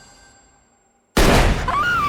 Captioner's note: gun fires; Whitney screams